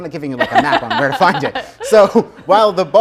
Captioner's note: laughing